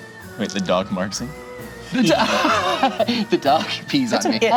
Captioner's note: laughs